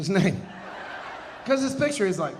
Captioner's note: audience laughing